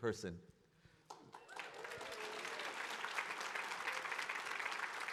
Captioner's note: audience clapping